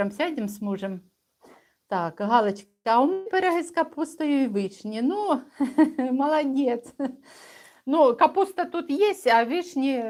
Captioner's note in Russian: смех